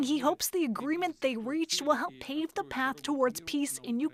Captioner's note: speaking Alternate Language